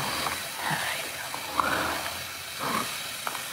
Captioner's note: whispering